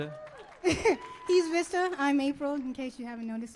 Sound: chuckles

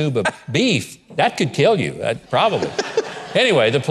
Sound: crowd laughing

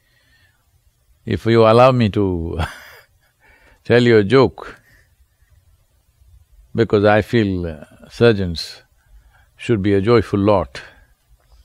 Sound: laughs

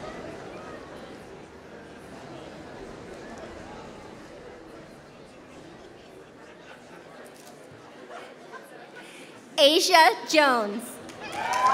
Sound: applause

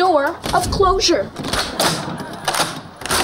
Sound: locks clanking

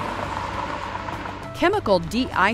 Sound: cars passing

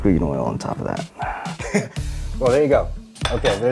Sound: chuckles

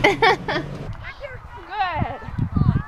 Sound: laughs

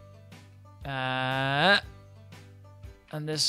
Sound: sound of effort

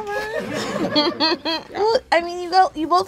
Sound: chuckles

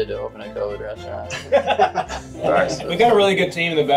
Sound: everybody laughing

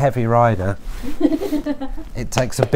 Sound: assistant giggles

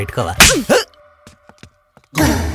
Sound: slaps

